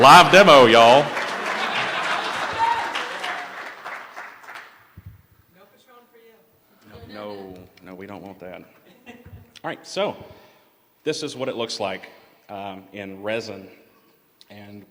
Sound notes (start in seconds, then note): 0.0 cheering; 4.7 laughter; 8.8 laughter